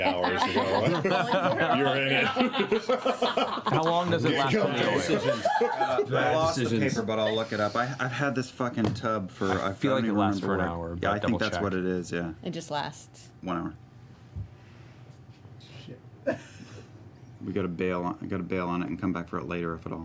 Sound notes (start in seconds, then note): 0.0 laughter; 16.2 laughs